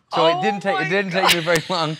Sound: laughter

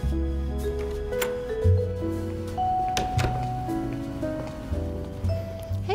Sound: door opens

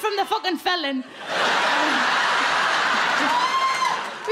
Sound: crowd laugh

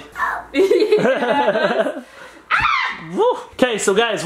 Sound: laughing

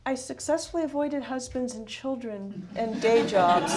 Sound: laughter

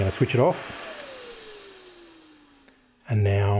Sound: fan whirring off

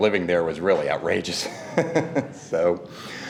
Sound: laughs

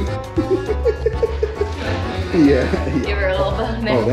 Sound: laughs

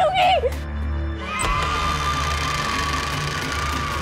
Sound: door creaks

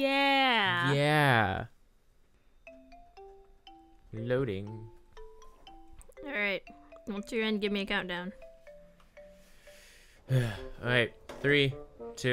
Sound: sigh

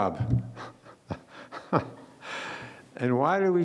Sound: laughing

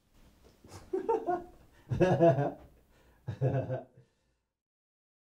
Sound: laughing

